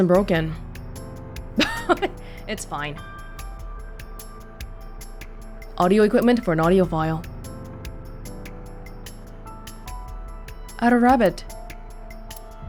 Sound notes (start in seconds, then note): 1.6 chuckles